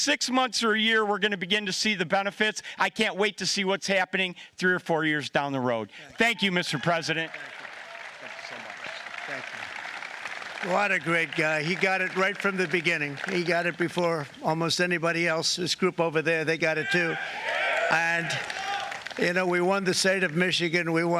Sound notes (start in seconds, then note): 17.3 applause